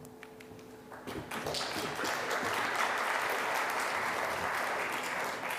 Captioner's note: audience applauding